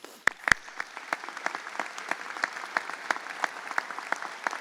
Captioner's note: audience applauds